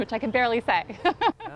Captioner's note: laughter